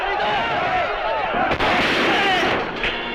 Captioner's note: gunshot; intriguing music